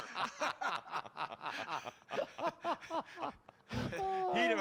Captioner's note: laughing